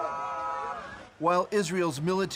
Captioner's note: speaking alternate language